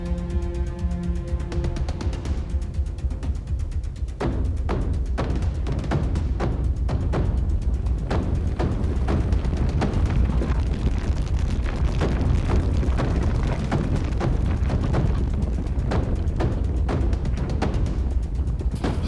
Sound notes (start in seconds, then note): 8.1 ground rumbling